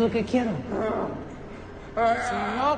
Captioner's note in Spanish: Gruñidos